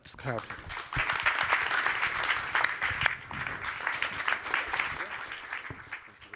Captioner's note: applause